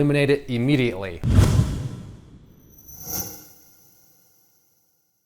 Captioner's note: swoosh, swoosh